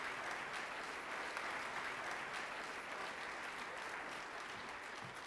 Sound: audience applause

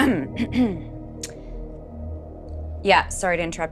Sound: throat clears

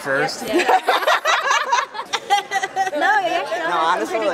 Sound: laughing

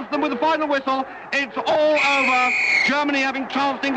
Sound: blowing the whistle

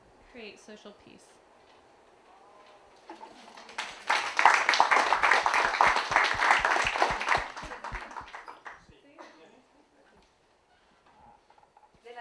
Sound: applause

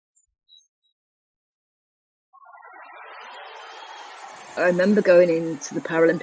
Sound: crowd cheering

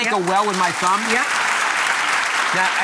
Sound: audience clapping

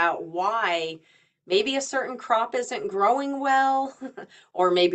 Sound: chuckles

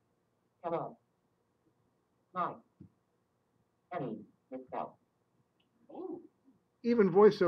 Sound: software talking

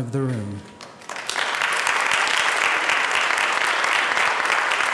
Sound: applause

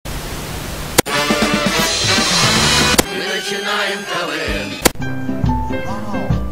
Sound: TV plays

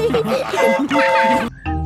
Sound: train whistle toots; school bell rings

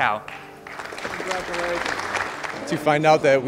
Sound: applause

